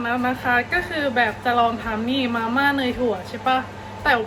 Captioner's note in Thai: ติ๊กต๊อก